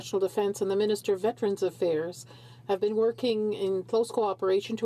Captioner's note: speaking in french